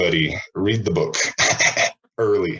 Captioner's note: laughs